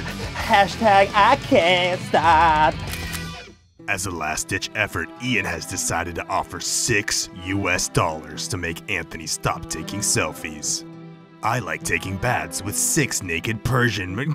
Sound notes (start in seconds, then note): 2.8 camera snaps